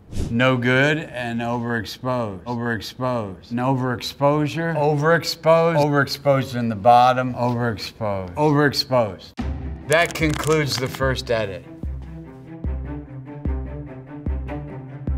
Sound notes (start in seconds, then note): 0.0 image whooshes; 10.9 counter ticking; 11.9 rousing music